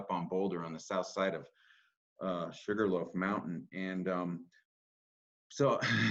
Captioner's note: laughs